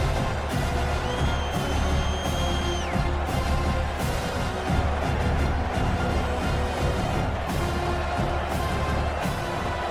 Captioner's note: crowd Noises